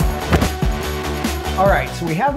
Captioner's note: upbeat music; oven door closing